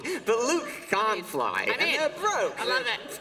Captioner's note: laughter